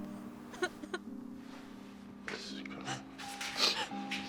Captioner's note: Maddie crying